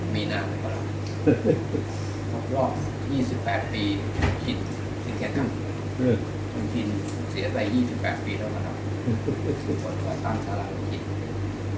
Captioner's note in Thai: พูดคุย